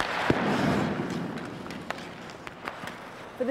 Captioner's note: stick slaps puck